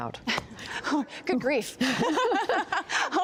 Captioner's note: laughter